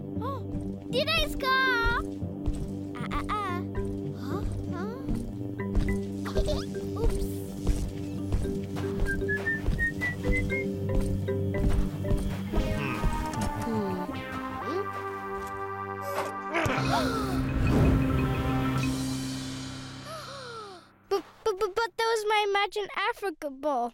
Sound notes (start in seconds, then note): 5.5 chuckling; 9.0 whistling; 11.6 mysterious music; 16.5 grunts; 16.7 gasps; 20.0 gasps